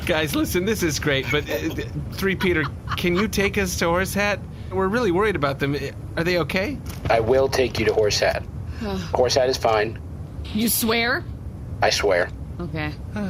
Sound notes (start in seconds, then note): 10.3 nervous